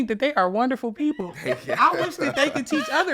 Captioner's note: laughing